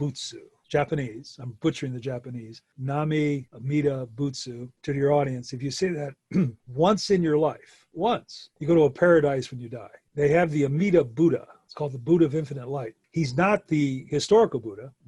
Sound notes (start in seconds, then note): 2.2 speaks in foreign language